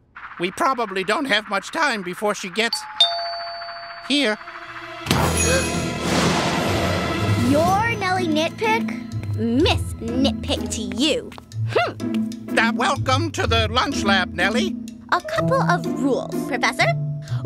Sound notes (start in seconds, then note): 2.8 doorbell